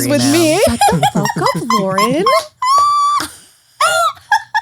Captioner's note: laughs